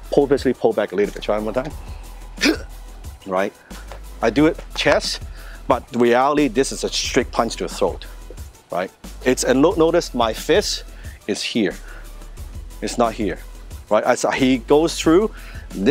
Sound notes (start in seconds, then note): 2.4 grunts